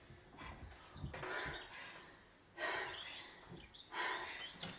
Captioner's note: out of breath heavy breathing